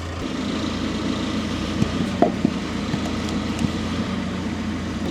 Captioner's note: telehandler rumbles